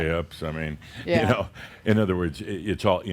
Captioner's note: Adamus chuckles